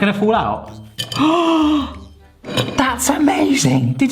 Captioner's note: gasping